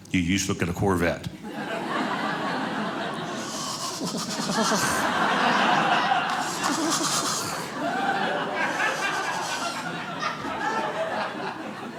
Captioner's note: audience laughing